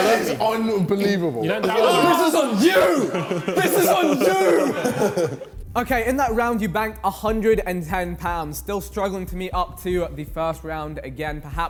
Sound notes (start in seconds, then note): 4.9 men laughing